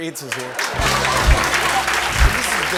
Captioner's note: applause